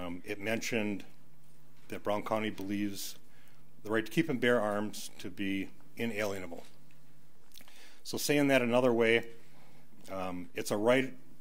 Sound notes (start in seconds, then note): none